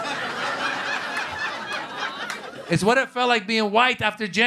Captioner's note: laughter